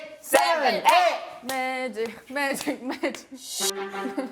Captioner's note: still in a low voice